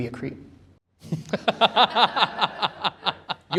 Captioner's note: laughter